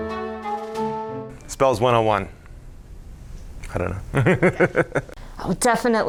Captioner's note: laughs